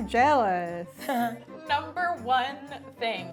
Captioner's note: laughs